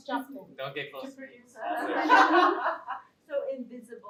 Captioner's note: laughter